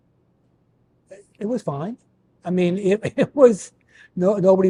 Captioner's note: chuckles